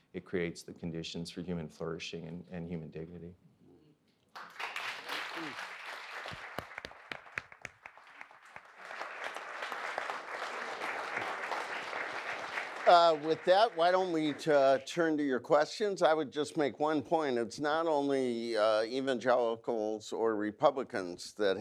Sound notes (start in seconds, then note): 4.6 audience applauds